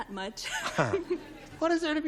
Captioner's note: laughter